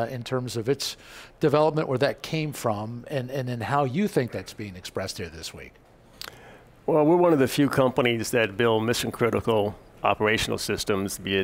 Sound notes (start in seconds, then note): none